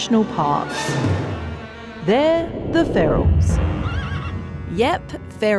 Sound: horse neighs

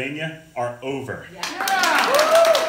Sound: applause

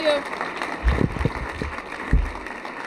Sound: applause

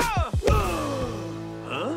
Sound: grunting

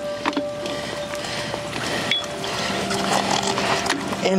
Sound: hook clanging

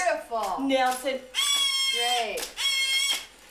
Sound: blows duck call

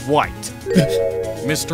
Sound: surprised grunt

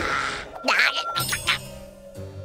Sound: groaning

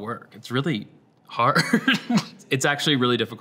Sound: laughs

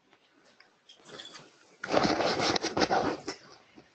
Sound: rustling

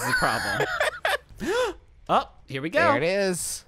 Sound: laughing; gasps

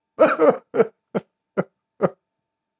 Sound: sob

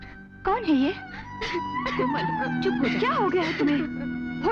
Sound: sobbing

